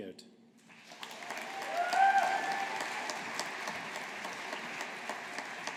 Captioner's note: audience applauding